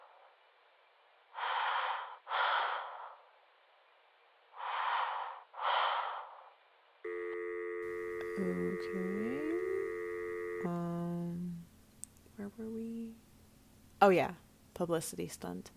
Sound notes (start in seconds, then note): 4.5 heavy breathing then hang up